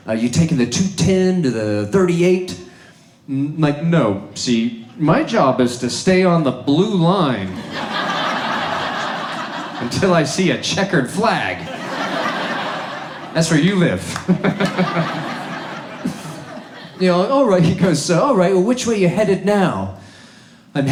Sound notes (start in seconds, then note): 14.8 audience laughs